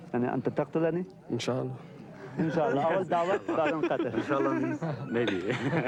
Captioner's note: men speaking in foreign language